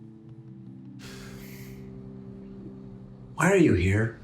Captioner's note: James sighs